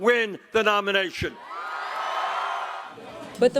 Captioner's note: cheering and applause